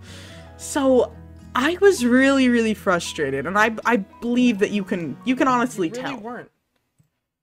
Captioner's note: stammers